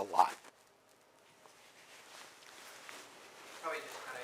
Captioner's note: pause